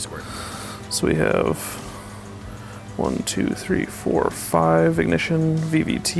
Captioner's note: pat